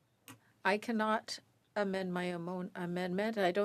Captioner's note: speaking French